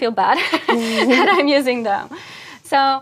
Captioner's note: laugh